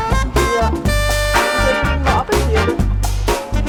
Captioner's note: in Swiss German